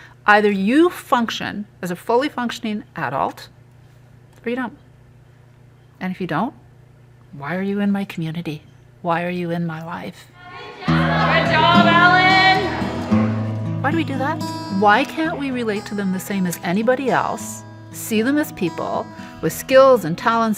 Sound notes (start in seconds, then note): 10.4 chatter